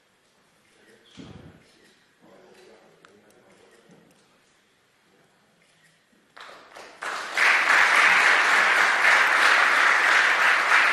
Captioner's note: clap